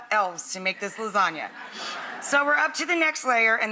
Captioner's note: audience laughs